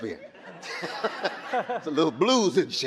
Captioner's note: audience laughing